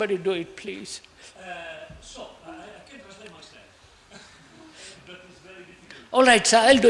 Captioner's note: Italian